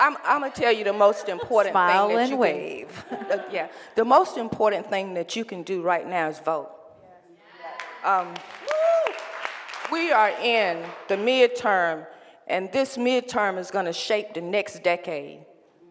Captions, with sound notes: - Imma tell you the most important thing that you can do. - Smile and wave. - Yeah, the most important thing that you can do right now is vote. (cheering and applause) We are in the midterm and this midterm is gonna shape the next decade.